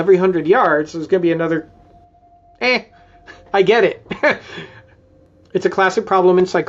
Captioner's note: chuckles